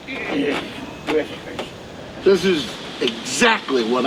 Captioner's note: Jake groaning